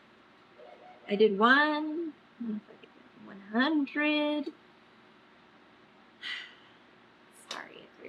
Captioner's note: exhales loudly